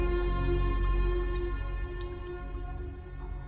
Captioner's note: juice dripping